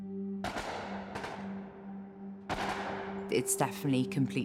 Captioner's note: distant gun fires